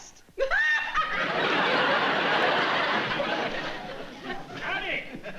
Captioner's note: laughter